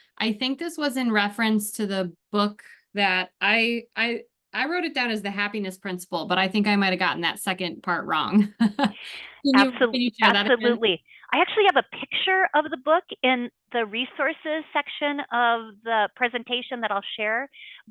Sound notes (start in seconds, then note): 9.5 laughs